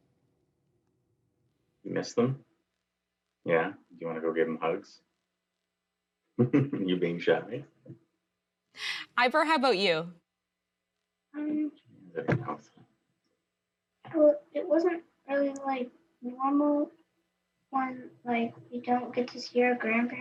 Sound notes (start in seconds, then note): 3.0 laughs